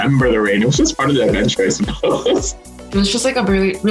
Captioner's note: laughing